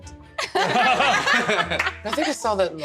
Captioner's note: laughter